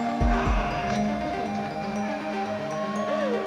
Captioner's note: roaring; audience applauding and cheering